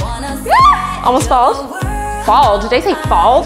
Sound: yells

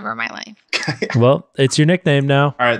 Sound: laughs

